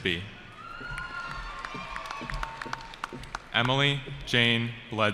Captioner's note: cheering